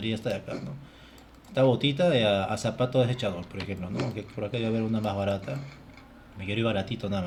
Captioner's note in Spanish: carraspeo